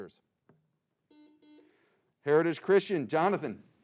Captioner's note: buzzing